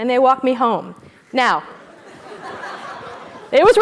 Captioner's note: laugh